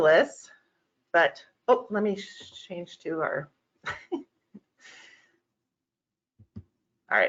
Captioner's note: chuckles